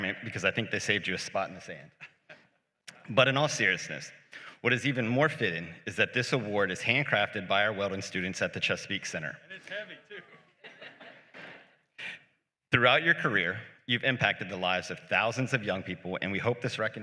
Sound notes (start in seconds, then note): 2.1 laughs; 10.2 laughter